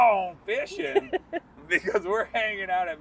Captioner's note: laughing